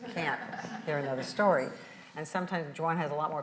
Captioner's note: audience laughs